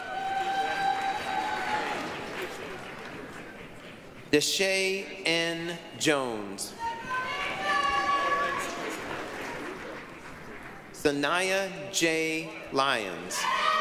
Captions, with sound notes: (applause, cheering) DaSha N. Jones. (applause, cheering) Shania J. Lyons.